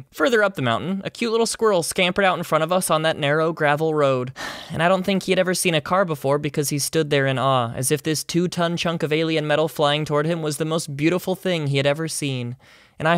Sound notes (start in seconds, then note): 4.4 sigh